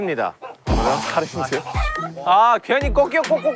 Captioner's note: frustrated